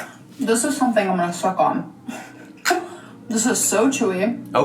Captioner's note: laughs